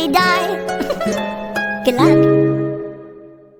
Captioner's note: goofy ahh chuckle